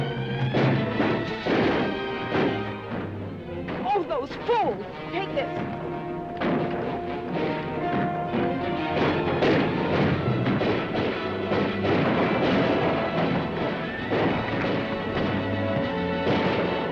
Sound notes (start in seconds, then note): 0.0 dramatic music; 0.2 guns firing; 6.4 dramatic music; 8.7 guns firing; 11.3 dramatic music; 14.0 guns firing; 16.6 dramatic music